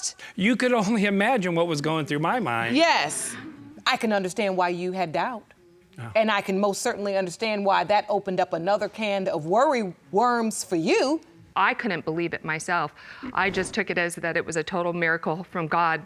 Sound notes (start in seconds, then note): 4.1 sighs; 13.2 sniffling